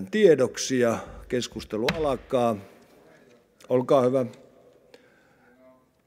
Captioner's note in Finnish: kopauttaa nuijaa